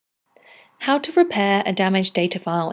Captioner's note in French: Voiceover